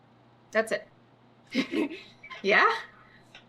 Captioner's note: laughs